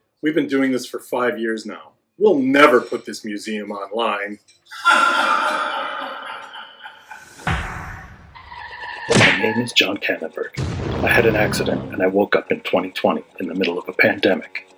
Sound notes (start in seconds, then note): 4.8 echo effect; 7.6 SOUND EFFECT: screeching tyres, thud of impact